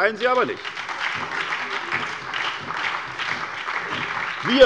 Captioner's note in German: Beifall bei der SPD und der FDP